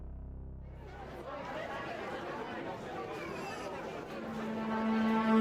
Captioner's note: indistinct chatter; dramatic music